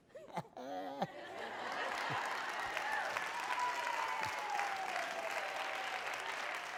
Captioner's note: laughing; applause